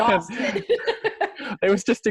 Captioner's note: laughs